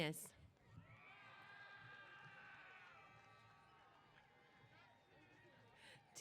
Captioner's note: cheers